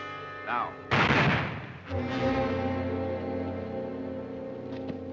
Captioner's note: ominous music; gunshots; suspenseful music